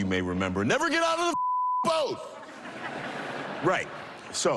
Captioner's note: laughter